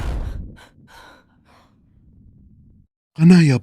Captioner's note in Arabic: تنهّد